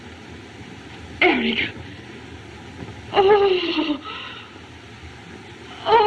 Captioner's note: shudders